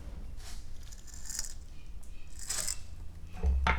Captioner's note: sound of leather cutting